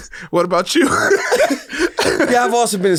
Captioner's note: laughs; both laugh